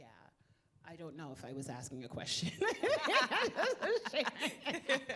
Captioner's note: laughing